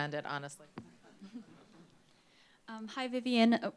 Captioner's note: laughter